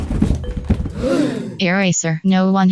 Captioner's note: gasp